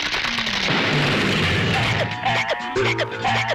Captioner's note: explosion